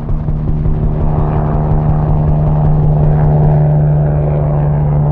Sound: helicopters whirring

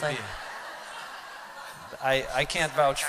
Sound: laughter

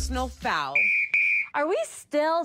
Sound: whistle blowing

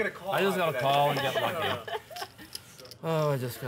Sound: laughter

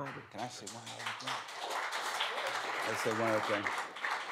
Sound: applause

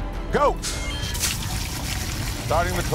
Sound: water splashing

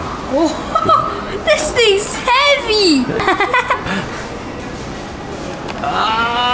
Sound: laughing

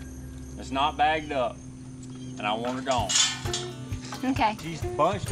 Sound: none

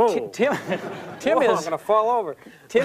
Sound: laughter

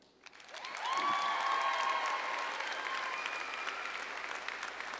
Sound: audience applauding

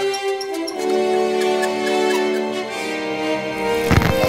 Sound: clown sounds

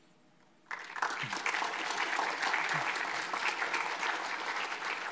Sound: audience applauds

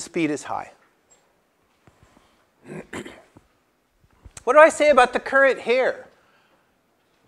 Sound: cough

